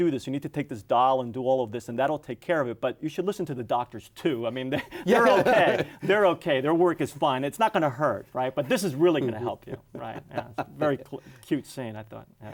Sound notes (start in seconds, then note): 4.8 laughs